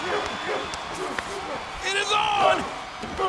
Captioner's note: audience cheers